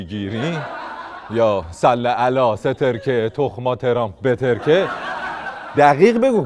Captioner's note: laughter